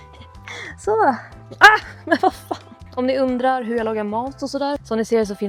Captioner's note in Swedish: skratt